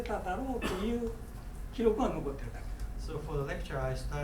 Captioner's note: coughing